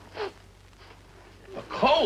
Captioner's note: Joan sniffling